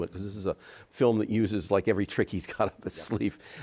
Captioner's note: chuckles